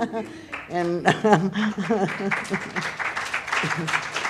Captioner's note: applause; laughter